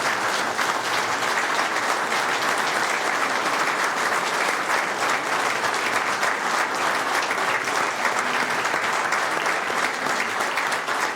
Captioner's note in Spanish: Aplausos